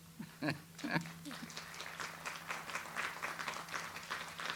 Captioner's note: audience applauds